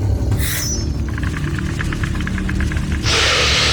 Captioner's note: blade chimes; snake hisses; snake rattles